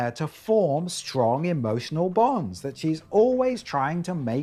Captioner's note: none